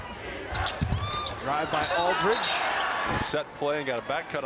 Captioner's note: crowd chants